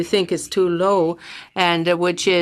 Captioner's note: speaking French